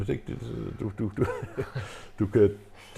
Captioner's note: giggling